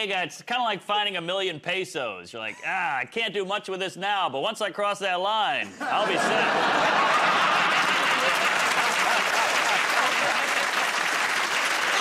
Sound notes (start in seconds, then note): 5.7 laughter; 8.9 applause